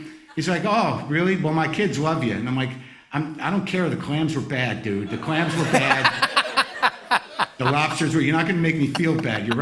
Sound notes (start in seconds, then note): 5.0 laughter